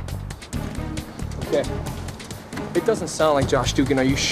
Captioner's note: panting